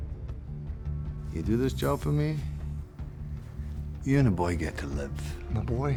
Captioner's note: scottish accent